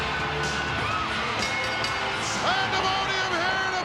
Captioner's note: bell dinging